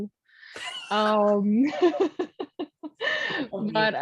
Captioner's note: chuckling